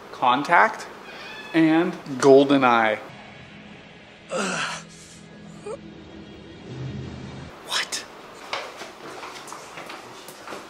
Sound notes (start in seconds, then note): 4.3 grunting